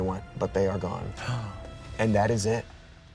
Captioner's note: gasps